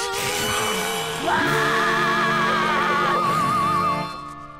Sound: hissing; screaming

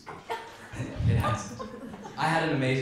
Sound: crowd laughs

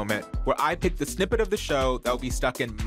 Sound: none

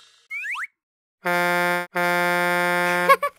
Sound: big rig horn blowing; Wally giggles

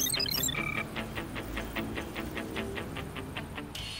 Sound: computer beeping

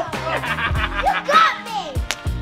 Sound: laughter

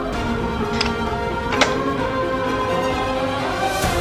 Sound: lock clattering

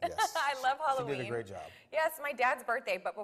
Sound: laughs

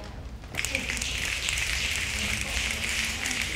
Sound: snapping

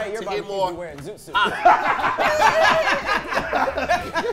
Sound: laughing

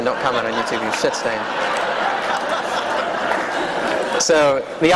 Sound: laughter

